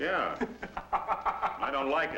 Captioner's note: Walsh giggles